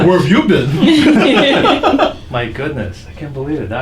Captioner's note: laughing